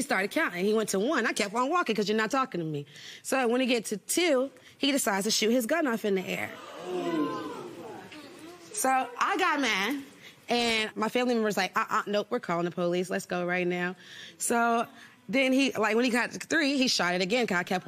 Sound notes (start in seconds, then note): 6.5 audience murmurs